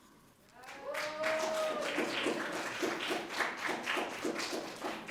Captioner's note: audience applauding